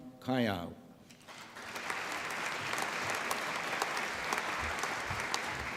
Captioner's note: applause